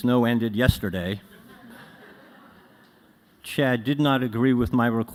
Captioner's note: laughter